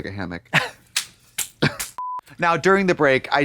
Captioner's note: Katya rasps and slaps